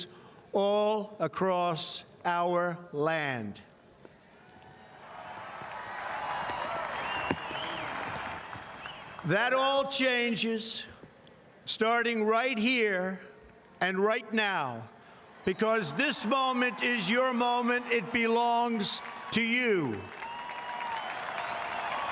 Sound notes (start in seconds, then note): 8.7 cheering; 9.1 applause